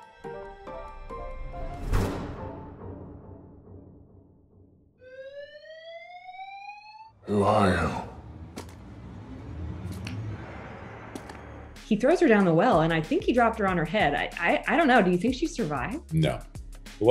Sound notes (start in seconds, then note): 0.0 whimsical music; 4.9 siren noise